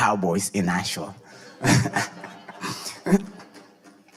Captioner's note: audience laughing; laughing